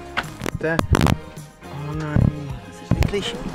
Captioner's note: mic crackles